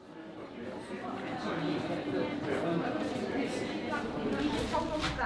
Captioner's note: people chattering